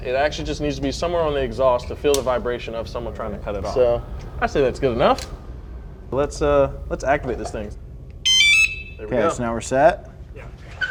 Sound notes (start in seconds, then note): 8.2 alarm beeps